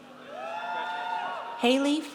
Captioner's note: audience cheers